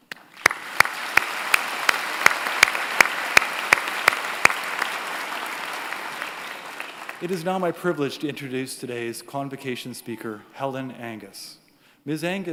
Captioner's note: applause